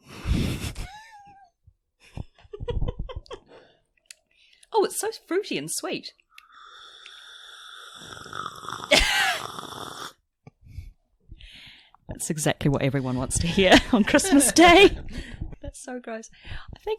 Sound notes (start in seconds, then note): 3.3 slurps